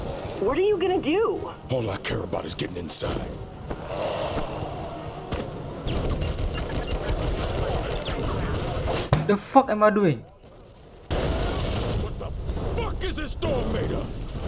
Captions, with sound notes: (rage_object_smashing.wav) The Fuck Am I Doing ?